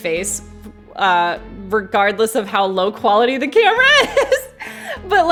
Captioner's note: laughs